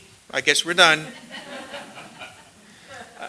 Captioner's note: laughter